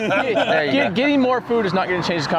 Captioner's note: all laughing